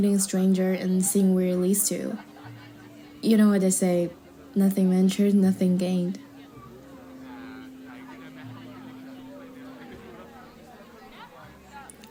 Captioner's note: chuckle